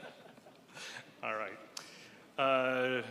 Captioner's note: laughs